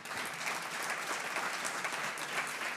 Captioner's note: audience applauds